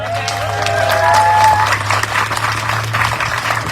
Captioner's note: audience cheering, applauding